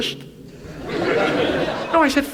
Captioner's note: audience laughs